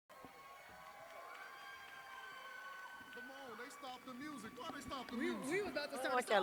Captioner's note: cheers and applause